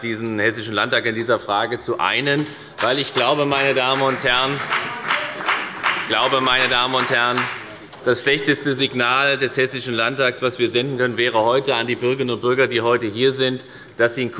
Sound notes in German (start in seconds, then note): 2.6 Beifall bei der FDP